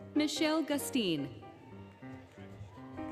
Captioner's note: applause, Cheering, Music